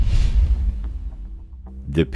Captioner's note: air whooshing